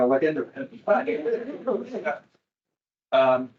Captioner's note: attendees laughing